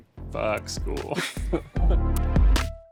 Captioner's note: everyone chuckling